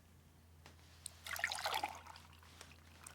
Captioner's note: pouring